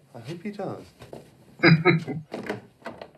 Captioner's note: chuckling